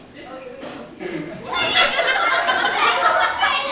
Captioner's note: laughing